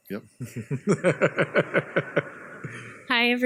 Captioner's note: laughs